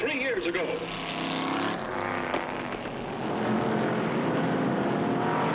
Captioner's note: engines revving